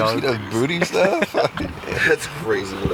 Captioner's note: laughter